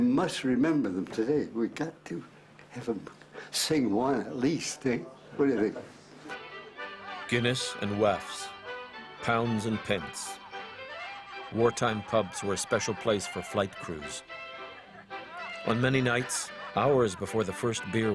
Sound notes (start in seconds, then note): 6.2 voiceover